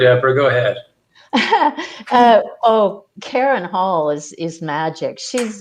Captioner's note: chuckling